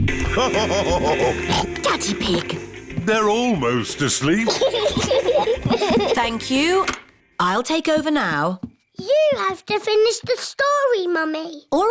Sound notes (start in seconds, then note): 0.3 laughs / honks; 4.2 both laugh